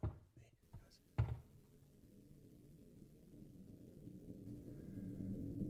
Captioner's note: creaking overhead